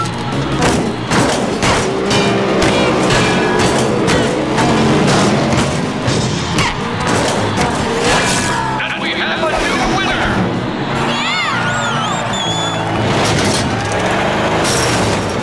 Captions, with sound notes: [thudding] [thudding] And we have a new winner! [cheering]